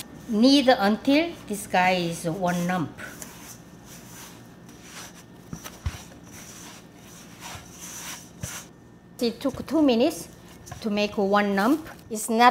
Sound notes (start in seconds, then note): 3.2 kneading sounds